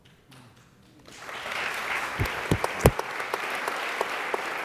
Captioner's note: applause